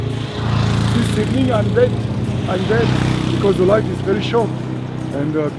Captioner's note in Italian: Inglese